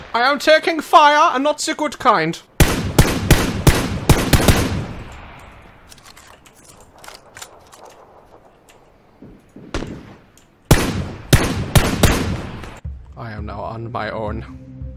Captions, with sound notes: I am taking fire, and not ze good kind. *gunfire* *gunfire* I am now on my own.